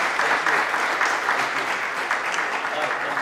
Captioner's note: applause